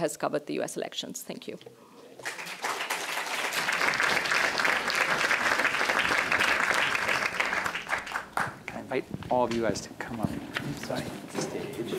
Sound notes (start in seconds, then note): 2.2 applause